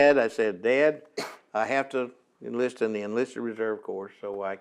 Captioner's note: coughs